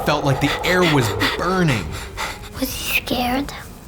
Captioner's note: boy panting